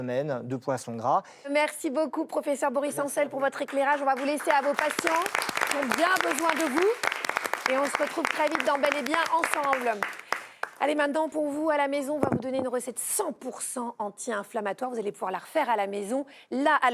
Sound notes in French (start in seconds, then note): 3.4 applaudissements